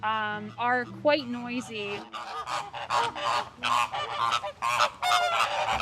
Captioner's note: flamingos squawking